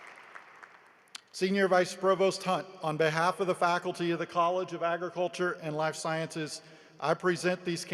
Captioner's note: applause